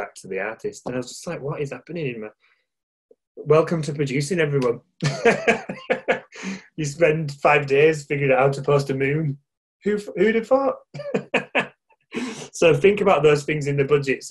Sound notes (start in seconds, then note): 5.1 laughing; 10.9 laughing